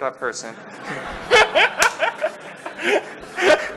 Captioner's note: laughter